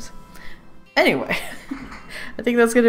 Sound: laughs

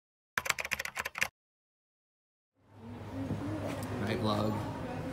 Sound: keyboard clicking

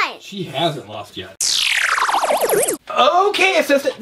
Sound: voiceover

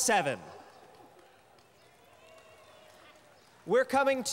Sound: cheering

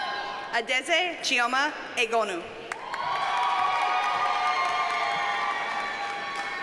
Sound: audience cheers and applauds

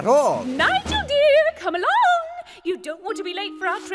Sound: cheerfully

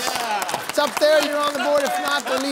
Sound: cheering

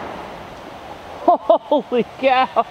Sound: laughs

